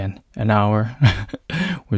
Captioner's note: chuckles